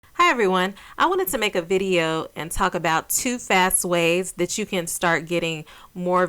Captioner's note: woman Speaking